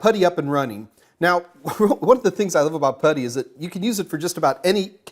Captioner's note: chuckles